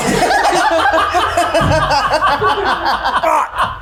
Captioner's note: all laugh